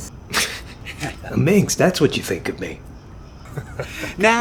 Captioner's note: chuckles